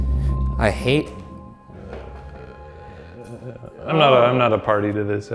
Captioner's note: groaning